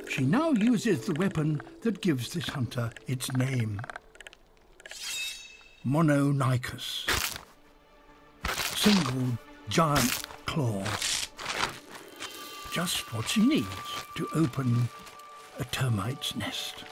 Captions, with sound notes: She now uses the weapon that gives this hunter its name. (sword unsheathing) Mononykus, single giant claw. Just what she needs to open a termite's nest.